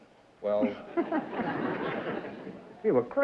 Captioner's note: laughter